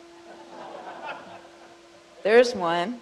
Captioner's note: crowd laughs